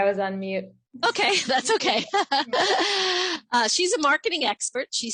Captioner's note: laughs